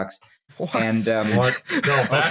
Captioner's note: laughs